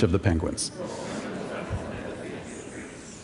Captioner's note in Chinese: Laughter; 笑聲